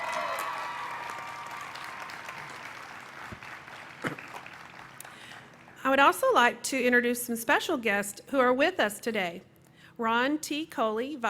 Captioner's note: cheering